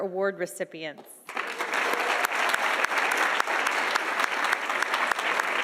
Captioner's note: audience applauding